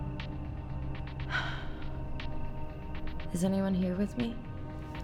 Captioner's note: sighs